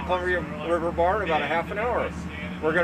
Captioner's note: winch motor running